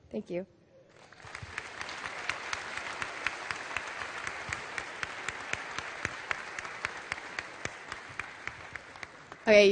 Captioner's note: applause